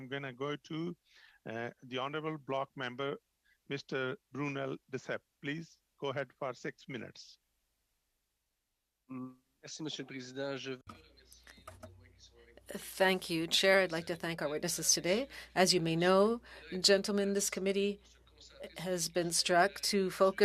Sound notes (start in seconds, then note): 14.8 speaking French